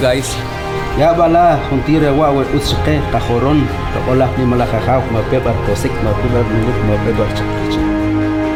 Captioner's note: speaking Foreign Language